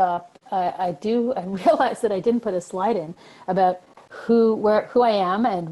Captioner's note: chuckling